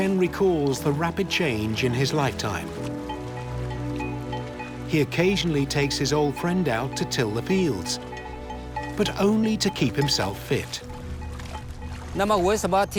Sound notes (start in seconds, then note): 4.0 bell clanging